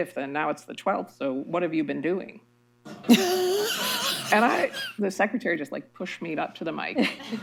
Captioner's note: laughter